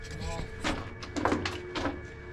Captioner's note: eerie music; clattering and banging; walking and shuffling